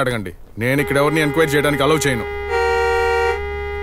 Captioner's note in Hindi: हॉर्न बजाते हुए